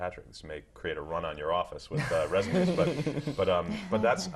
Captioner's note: laugh